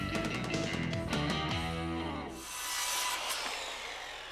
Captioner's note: mechanical whirring